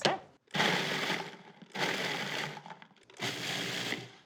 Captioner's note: blender whirs